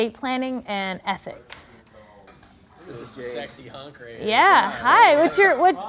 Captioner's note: laughing